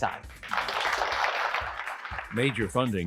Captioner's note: applause